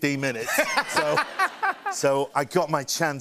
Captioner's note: laughter